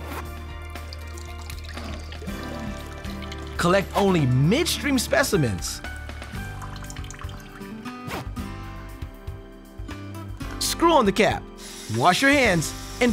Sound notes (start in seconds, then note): 0.0 zipper hissing; 0.5 liquid dripping; 8.0 zipper hissing